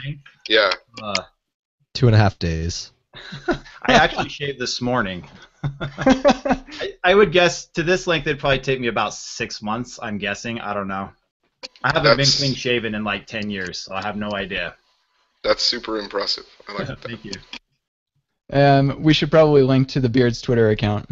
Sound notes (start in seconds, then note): 5.3 laughter